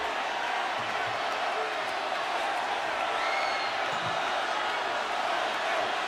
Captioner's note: audience chanting and clapping